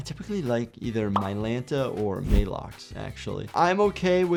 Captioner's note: meds popping and whooshing